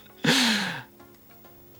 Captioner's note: laughing